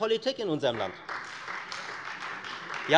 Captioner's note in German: Beifall Freie Demokraten